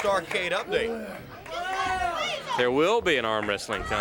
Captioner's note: crowd chatter